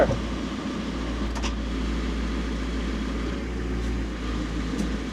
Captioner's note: telehandler whirring